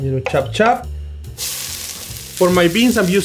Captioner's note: oil sizzling